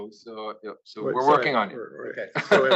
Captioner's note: laugh